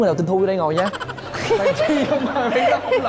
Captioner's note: laughing